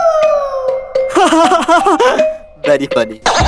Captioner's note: Uzi laughing